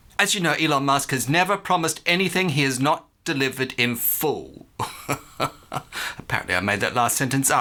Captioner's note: long laugh